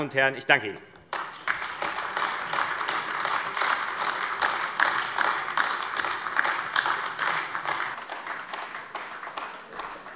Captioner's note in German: Beifall AfD